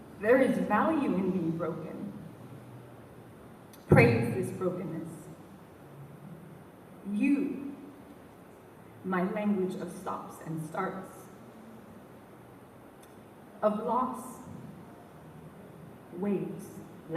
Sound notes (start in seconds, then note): none